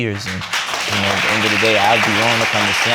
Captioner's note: audience applauding